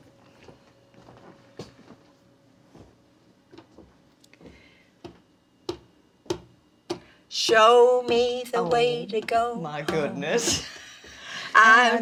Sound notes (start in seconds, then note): 5.4 hand tapping